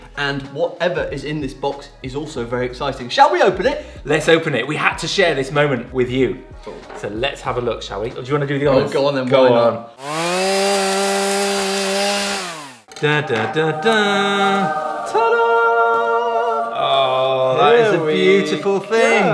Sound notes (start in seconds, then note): 10.0 chainsaw buzzing; 12.8 angelic choir harmonizes